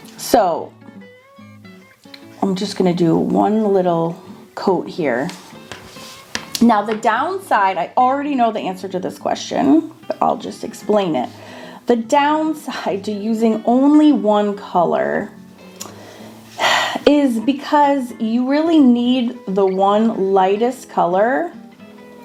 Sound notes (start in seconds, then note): 15.8 breathes deeply